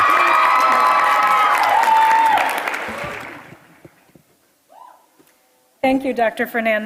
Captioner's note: applause